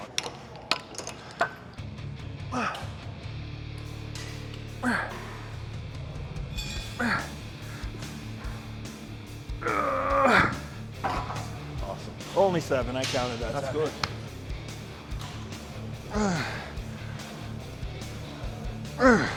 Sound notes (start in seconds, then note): 0.3 weights clunking; 2.0 Ethan grunting; 2.0 upbeat rock music; 14.3 Sheamus grunting; 14.3 upbeat rock music continues